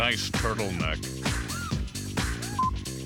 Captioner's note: chuckles